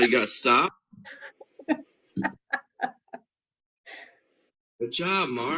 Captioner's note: laughter